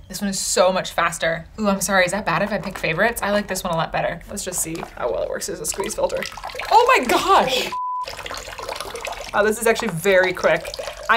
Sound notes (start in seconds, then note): 7.6 beep